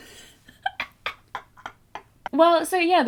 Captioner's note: both laugh